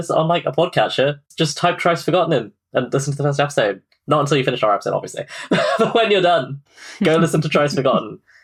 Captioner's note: laughs